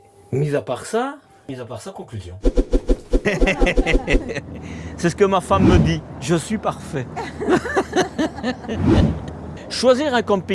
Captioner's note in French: rires